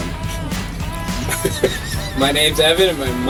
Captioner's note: laughs